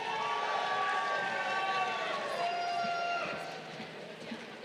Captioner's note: crowd cheering